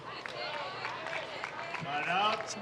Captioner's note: audience clapping